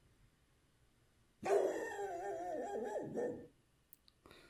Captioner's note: dog barks